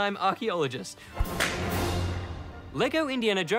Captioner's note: crack!